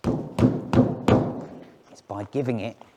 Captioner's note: fist thumps